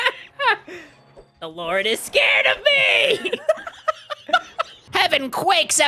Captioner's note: laughing; Spongebob voice; laughing; Spongebob voice